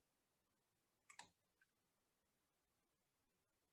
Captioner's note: mouse clicking